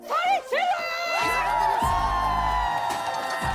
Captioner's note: cheering loudly